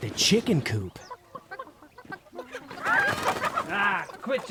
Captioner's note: chickens squawking; wings fluttering